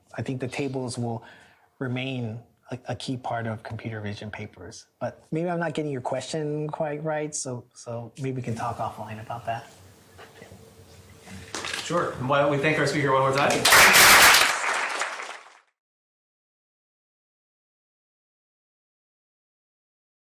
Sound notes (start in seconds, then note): 13.3 applause